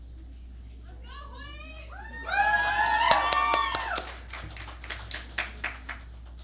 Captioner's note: applause